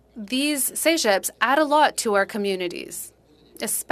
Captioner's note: speaking French